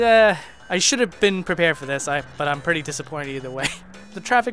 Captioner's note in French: rires